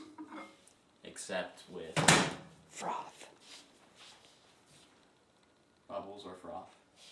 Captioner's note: cameraman whispering